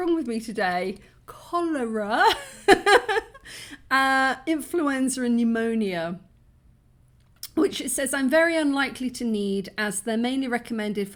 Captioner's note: laughing